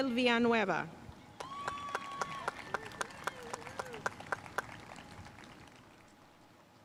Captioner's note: audience cheering and applauding